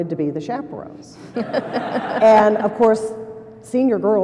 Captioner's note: laughter